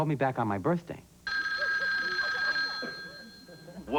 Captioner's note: telephone rings